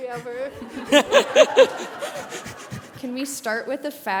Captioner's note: laughter